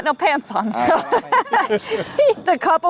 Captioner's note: group laughs